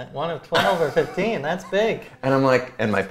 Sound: laughs

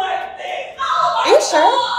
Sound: woman in bathroom yelling

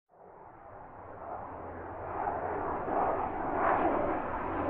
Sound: plane go NYOOM

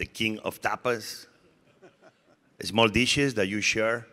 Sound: audience laughing

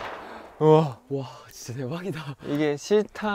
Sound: the shooting sound

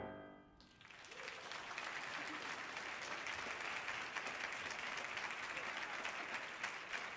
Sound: audience applauding; audience cheering

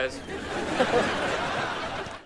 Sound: laughing

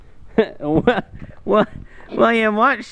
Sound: laughing

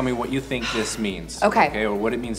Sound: breathes

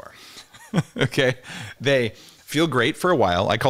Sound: chuckles

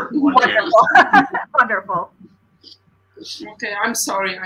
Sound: laughter

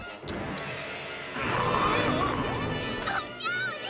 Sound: belching

